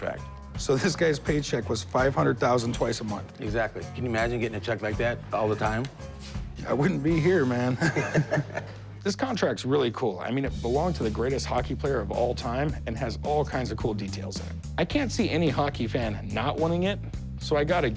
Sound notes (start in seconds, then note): 7.6 laughter